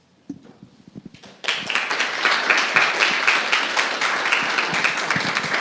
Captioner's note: applause